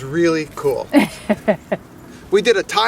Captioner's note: woman chuckles